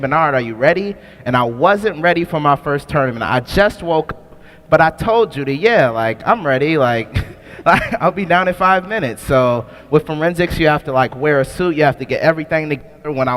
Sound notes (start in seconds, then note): 7.1 laughs